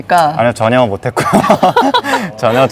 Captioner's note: laughs